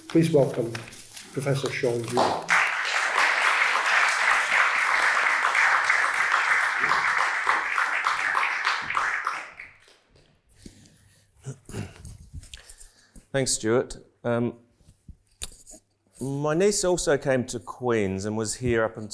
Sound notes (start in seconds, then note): 2.0 attendees applauding